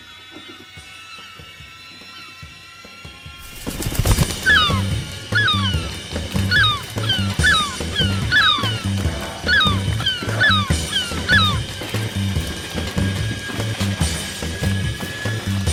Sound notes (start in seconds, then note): 4.0 shop door rattling; 6.6 wings flapping; 7.5 gulls squawking; 8.6 dramatic music continues